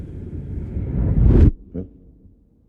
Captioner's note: sound gets muffled